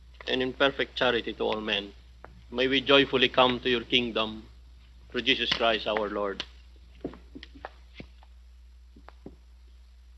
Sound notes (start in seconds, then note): none